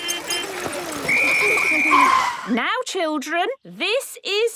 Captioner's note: whistle blowing